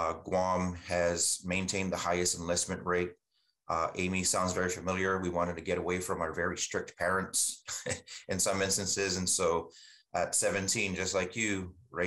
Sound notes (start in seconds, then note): 7.6 chuckles